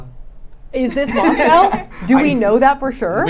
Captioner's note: laughing